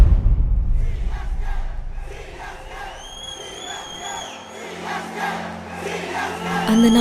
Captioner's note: CSK fans chant religiously